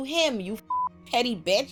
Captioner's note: beep